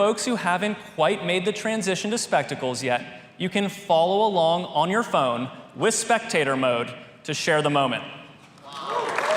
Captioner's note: applause